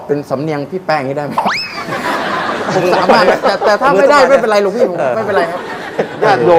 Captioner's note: laughing sound